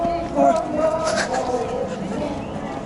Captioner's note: protest chants